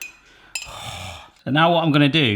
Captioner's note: groaning